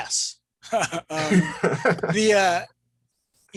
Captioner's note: laughs